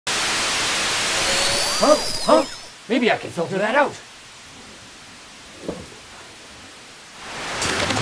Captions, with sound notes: [STATIC] Huh? Huh? Maybe I can filter that out!